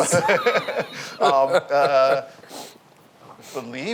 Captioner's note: laughs